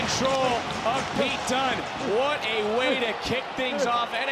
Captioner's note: audience cheering